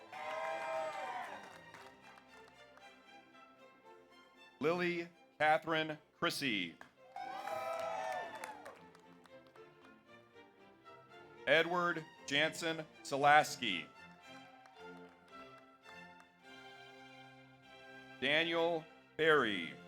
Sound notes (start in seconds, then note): 0.0 audience cheers; 0.0 audience applauds; 6.8 audience applauds; 7.0 audience cheers; 13.9 audience applauds